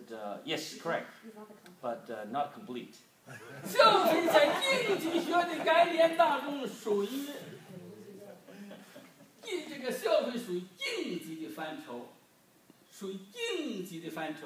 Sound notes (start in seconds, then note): 3.3 group laughs; 3.7 speaking foreign language